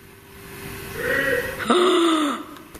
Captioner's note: male shouting